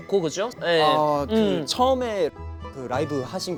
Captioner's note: hesitant